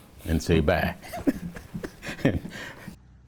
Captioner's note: chuckles